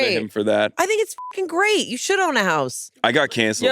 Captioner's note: beep